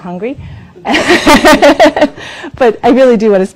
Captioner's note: laughs